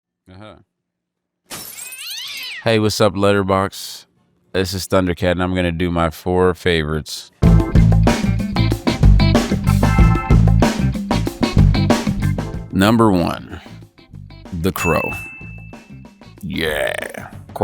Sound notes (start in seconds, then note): 1.5 cat yowling; 1.5 glass breaking; 7.4 light funky music